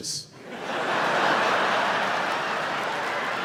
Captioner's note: laughing